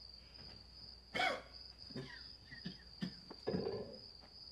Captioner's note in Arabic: سعال